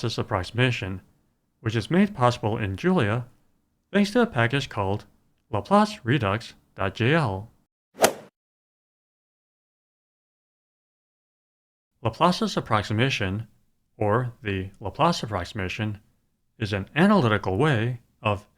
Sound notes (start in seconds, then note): 8.0 swoosh